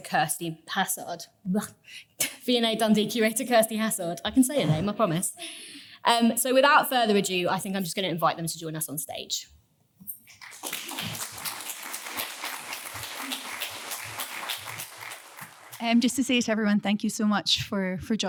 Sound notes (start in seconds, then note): 10.2 audience clapping